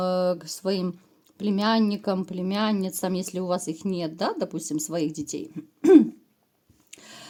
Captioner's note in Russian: откашливается